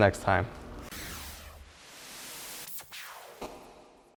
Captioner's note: air whooshing